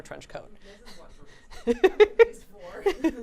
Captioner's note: laughing